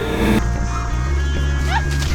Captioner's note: screams